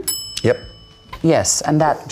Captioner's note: bell dings